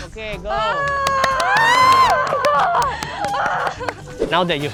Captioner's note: everyone cheering